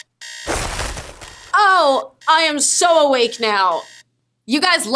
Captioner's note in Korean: 취침 중 알람이 울림